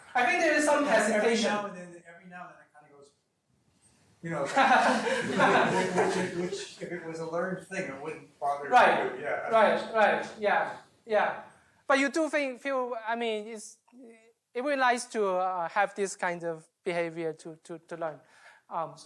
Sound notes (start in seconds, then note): 4.4 laughter